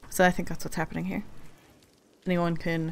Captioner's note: none